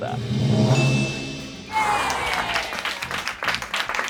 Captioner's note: drum roll hisses; bell chimes; crew applauds